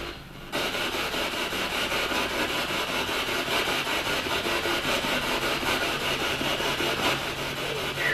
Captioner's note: radio noise from the spirit box